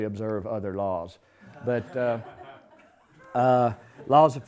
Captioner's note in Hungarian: nevetés